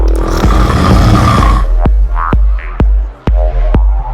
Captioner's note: woman growling